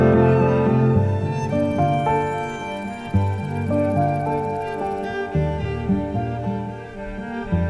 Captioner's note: insect chirping